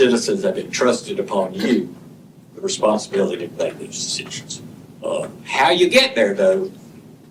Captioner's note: clears throat